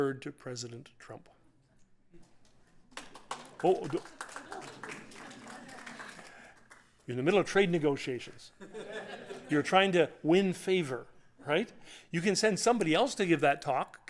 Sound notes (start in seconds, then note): 2.8 audience clapping; 4.4 laughter; 5.3 audience clapping; 8.6 laughter